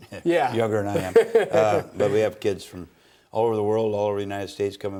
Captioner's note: laughs